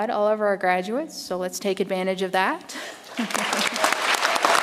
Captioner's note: chuckles; audience applauds